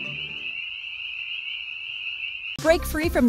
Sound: crickets chirping

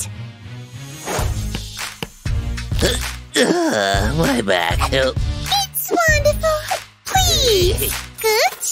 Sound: groaning

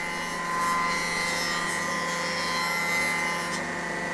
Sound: grinding noise

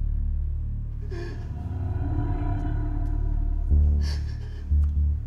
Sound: cries

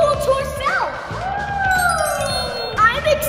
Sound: mom cheers

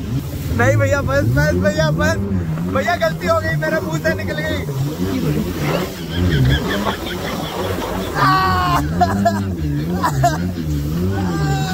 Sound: screams in fear

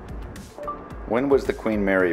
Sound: beeps

